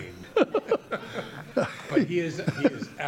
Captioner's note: laughing